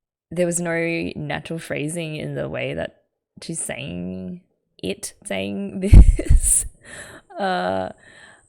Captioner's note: laughs